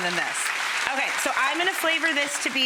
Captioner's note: audience applauding